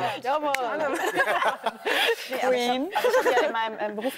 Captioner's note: laughter